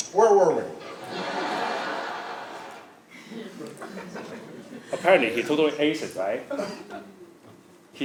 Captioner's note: laugh